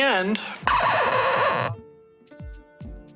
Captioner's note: record scratch to a halt